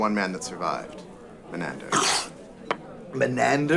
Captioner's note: chokes